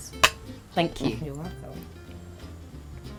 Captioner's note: glass clinks